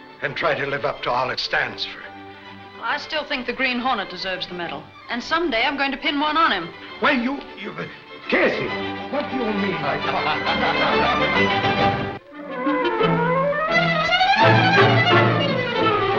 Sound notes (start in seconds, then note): 9.4 laughing